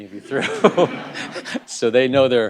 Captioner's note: laugh